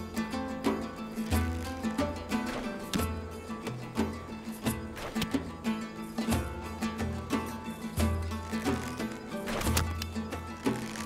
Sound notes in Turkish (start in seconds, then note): 9.4 Ok fırlatma sesi